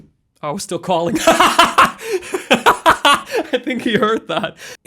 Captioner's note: laughing